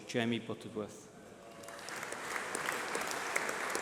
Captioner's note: applause